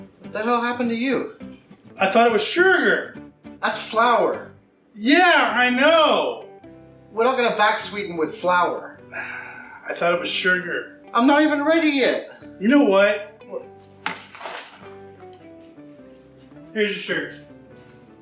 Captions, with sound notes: The hell happened to you? I thought it was sugar! That's flour. Yeah, I know! We're not gonna back sweeten with flour! (Sigh) I thought it was sugar. I'm not even ready yet! You know what? There's your sugar.